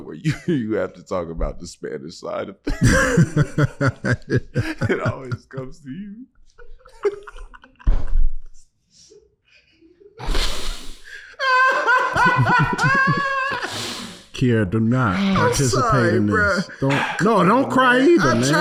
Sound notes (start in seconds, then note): 11.1 laughing